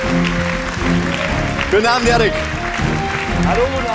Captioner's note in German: Applaus